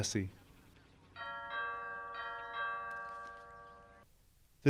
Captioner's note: doorbell ringing